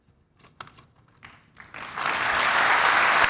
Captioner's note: applauds